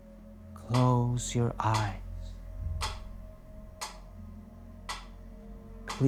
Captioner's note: metronome clicking; metronome continues clicking